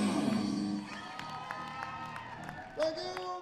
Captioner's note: applause and cheering